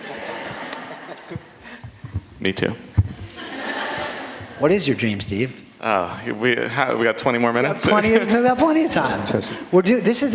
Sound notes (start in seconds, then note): 0.0 laughter; 3.2 laughter